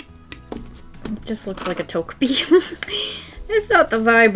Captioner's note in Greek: Γέλια